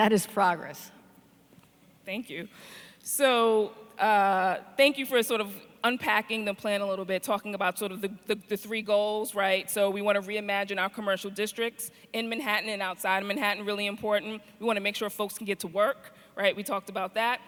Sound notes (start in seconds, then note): none